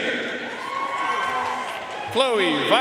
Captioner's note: audience cheering and applauding